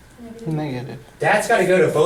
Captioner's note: voiceover